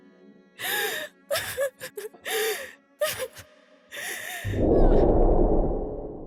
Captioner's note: sobbing